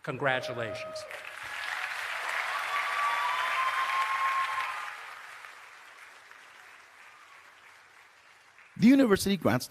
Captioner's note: applause and Cheering